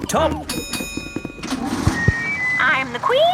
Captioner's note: bell dings